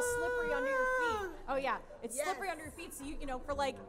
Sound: none

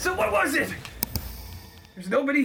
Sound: trap Activated Noise

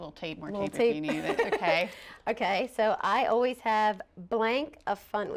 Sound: laughter

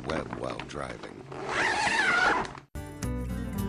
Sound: zip

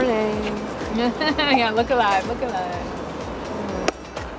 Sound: laugh; hands clap together

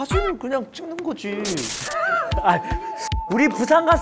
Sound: laughs

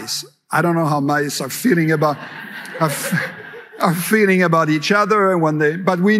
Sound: laughter

